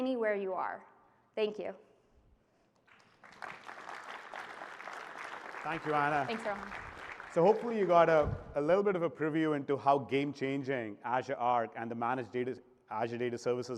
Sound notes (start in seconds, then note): 5.7 applause